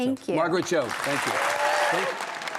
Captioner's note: audience applauding